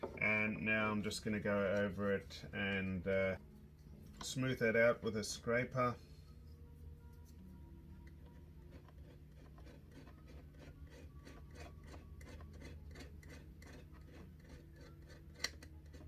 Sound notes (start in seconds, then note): 8.1 tool scratching